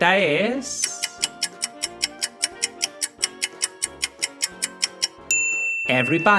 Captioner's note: A clock ticks and a bell sounds revealing the solution